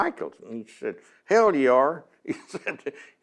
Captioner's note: laughs